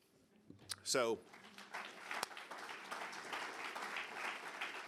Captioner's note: audience applauding